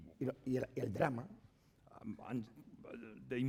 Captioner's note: speaking spanish